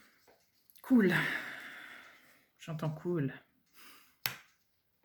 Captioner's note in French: soupir